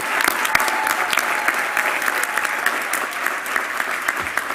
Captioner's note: applause